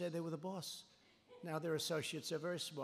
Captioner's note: laughter